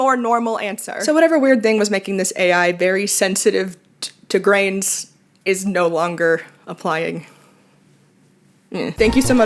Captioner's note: conclusion noise